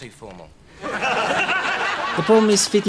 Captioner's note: audience laughing